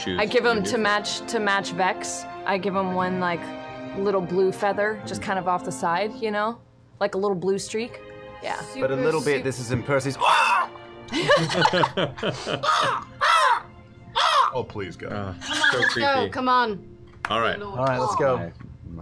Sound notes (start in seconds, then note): 10.2 caws; 11.1 laughter; 14.1 caws